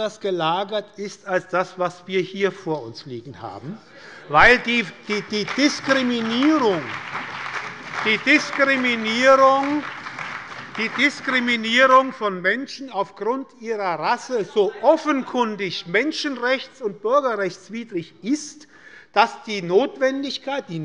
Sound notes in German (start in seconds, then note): 4.4 Beifall bei der SPD, der CDU und dem BÜNDNIS 90/DIE GRÜNEN